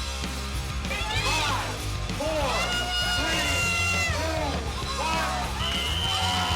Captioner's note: rock music; whistle blows